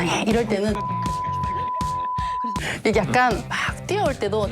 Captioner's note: biiiiiiiippppp